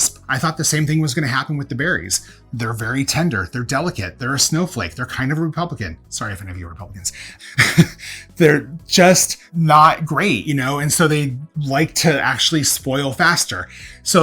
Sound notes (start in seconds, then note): 7.4 chuckles